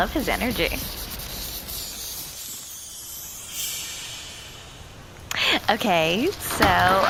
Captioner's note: transition noise